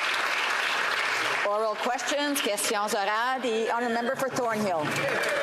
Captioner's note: some Applause